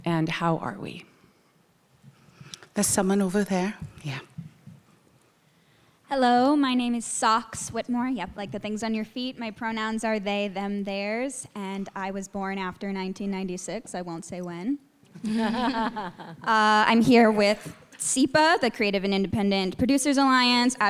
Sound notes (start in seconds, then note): 15.2 people laughing